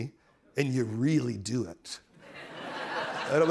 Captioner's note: laughter